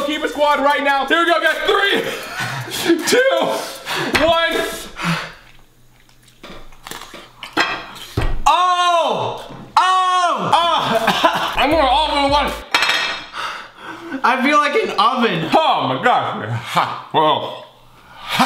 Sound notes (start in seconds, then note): 6.6 crunching